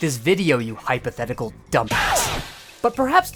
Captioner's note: parry sound effect